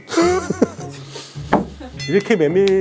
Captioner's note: sniff